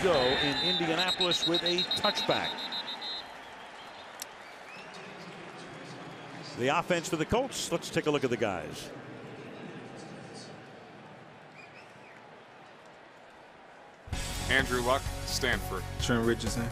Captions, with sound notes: And off we go in Indianapolis with a touchback. [whistle] [pa announcement] The offense for the Colts, let's take a look at the guys. Andrew Luck, Stanford.